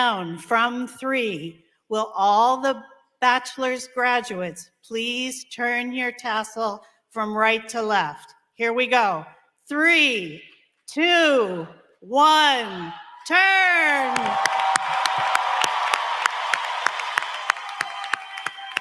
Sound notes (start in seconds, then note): 12.1 applause; 13.0 cheering